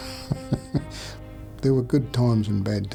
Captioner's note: giggling